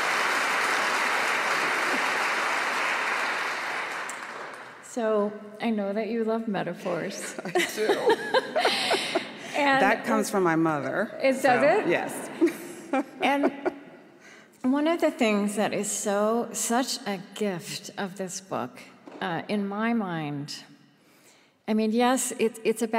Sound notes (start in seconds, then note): 0.0 audience applause; 7.2 laughs